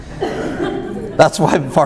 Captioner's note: audience laughs